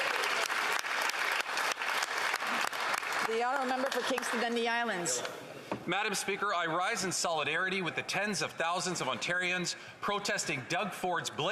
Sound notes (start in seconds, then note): 4.1 some Applause